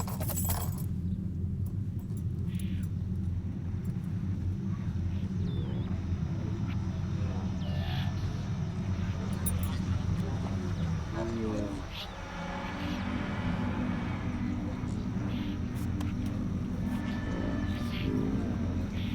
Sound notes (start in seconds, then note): 2.2 static hisses and whines